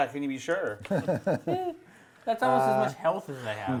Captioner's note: laughter